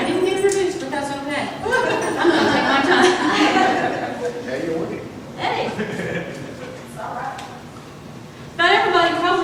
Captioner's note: audience laughter